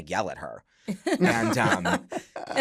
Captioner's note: laughter